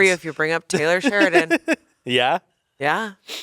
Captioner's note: laughs